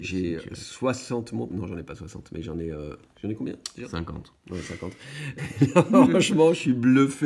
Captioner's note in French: rires